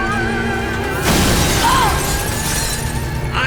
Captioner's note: groaning